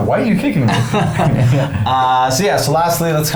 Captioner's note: laughing